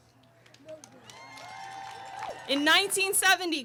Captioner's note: audience cheering